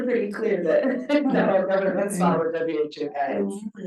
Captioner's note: chuckles